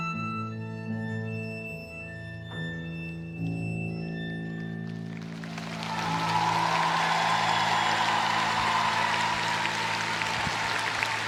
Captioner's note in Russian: аплодисменты